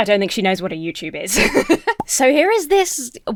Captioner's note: laughs